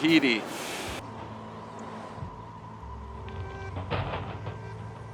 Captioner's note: train rumbling